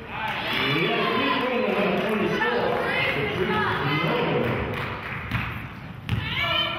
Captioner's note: cheering and clapping